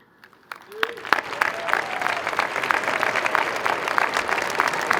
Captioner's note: crowd applauding